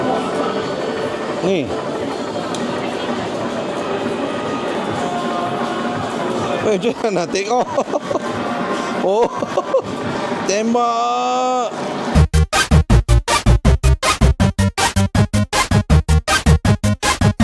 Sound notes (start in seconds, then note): 7.4 laugh